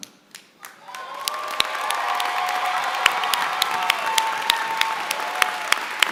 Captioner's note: applause